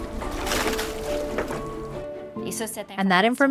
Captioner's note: water splashing; speaking in a foreign language